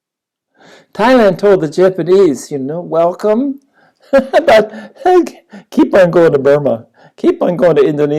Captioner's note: laughs